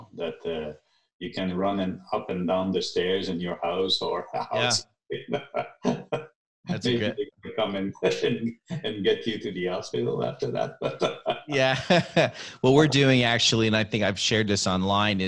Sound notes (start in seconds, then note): 6.8 laughing; 11.9 both laughing